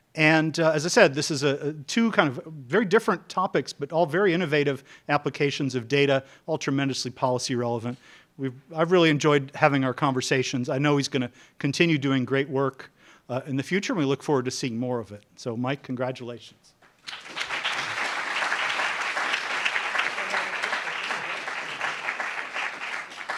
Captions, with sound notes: And, as I said, this is two very different topics, but all very innovative applications of data, all tremendously policy relevant. I've really enjoyed having our conversations. I know he's gonna continue doing great work in the future, and we look forward to seeing more of it. So, Mike, congratulations. (applauds)